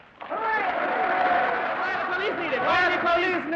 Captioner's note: audience cheering